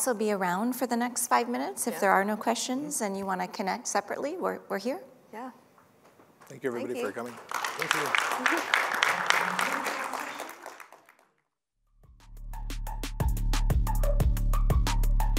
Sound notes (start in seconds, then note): 8.0 applause